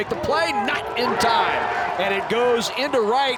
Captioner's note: crowd cheering